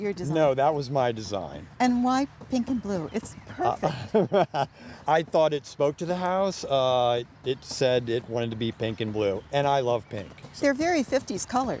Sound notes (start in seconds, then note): 3.6 ^laughter^